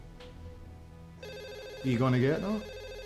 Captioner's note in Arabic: رنات الهاتف; لكنة اسكتلندية